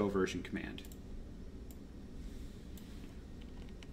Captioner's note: mouse clicks; keyboard typing